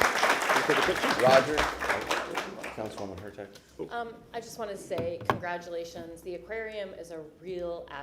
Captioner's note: applause